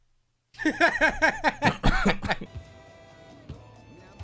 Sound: laughs

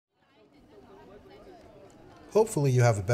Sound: street noise

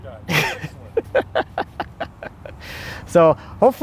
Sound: laughing

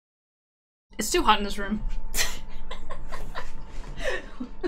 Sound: laughs

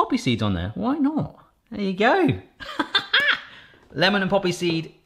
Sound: chuckles

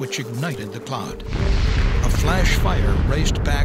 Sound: sound of explosion

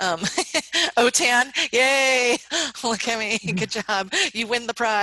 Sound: laughs

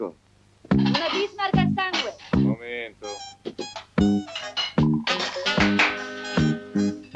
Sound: female voice

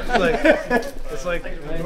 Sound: laughs

